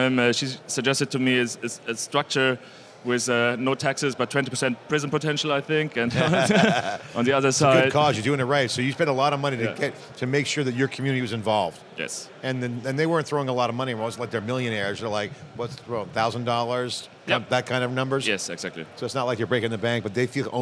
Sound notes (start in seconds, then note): 6.1 laughs